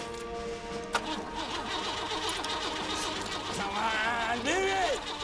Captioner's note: engine sputtering